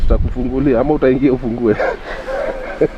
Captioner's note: laughs